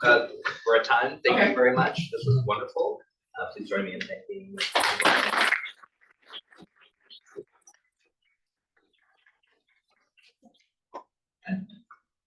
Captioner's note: audience claps